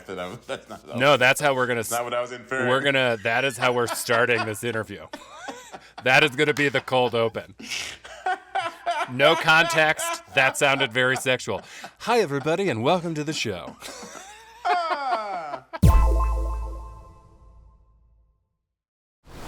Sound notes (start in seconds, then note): 8.2 laughs loudly; 13.9 laughter